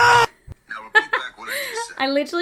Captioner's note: laughing